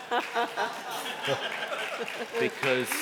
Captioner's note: applause